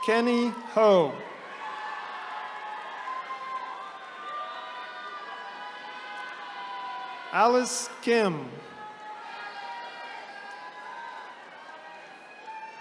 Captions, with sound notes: Kenny Ho. (attendees cheering) Alice Kim. (attendees cheering)